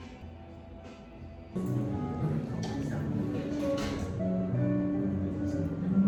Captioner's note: sounds of the cafe buzz